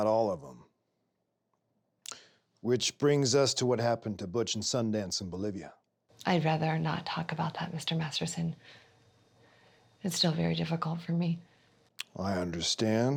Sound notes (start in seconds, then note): none